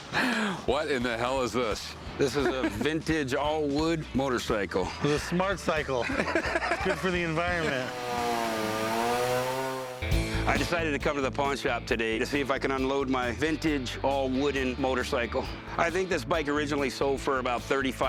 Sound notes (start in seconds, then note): 5.6 laughter; 6.9 chainsaw buzzing